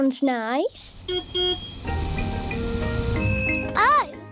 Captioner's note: car horn beeps